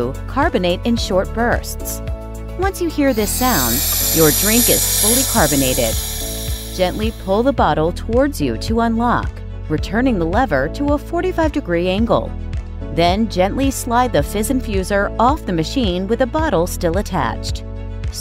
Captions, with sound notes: carbonate in short bursts. Once you hear this sound [gas hissing], your drink is fully carbonated. Gently pull the bottle towards you to unlock, returning the lever to a 45 degree angle. Then, gently slide the Fizz Infuser off the machine with the bottle still attached.